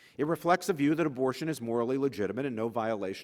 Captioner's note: none